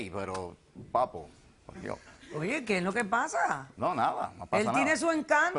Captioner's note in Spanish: Susurra algo